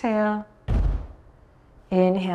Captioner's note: thuds on floor